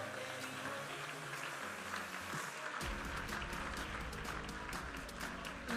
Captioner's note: audience applauding and cheering